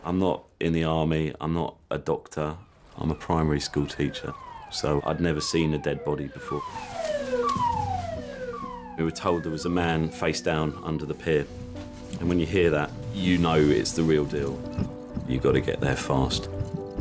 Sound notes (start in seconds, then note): 7.1 siren blaring